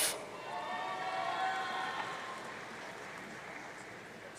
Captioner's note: audience cheering